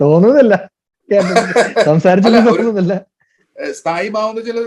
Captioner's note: Joju Laughs